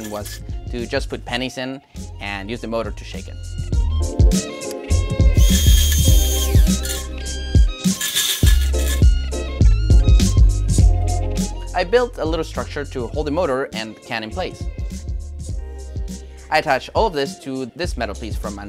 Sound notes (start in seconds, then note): 5.0 pennies rattling; 5.4 motor whirring